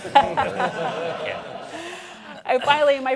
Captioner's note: laughter